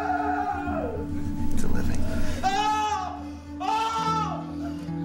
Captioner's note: screaming